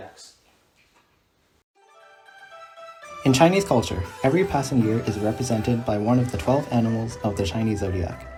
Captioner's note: none